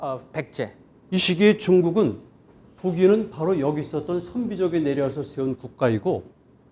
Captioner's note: speaking in Korean